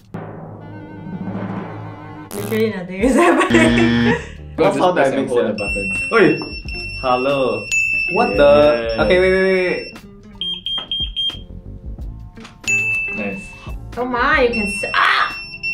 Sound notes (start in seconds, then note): 5.5 pager rings; 12.6 shock by pager ring